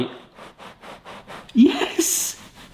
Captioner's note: cake scratching